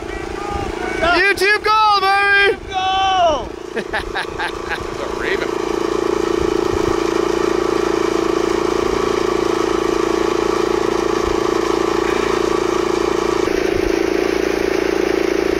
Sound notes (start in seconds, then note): 3.6 laughing; 7.0 engine chugging; 12.0 sighs with satisfaction